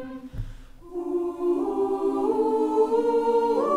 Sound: oooooing

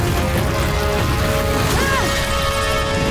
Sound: Aang exclaims

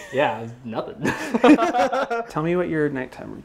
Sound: laughter

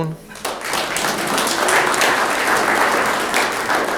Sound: room applauds

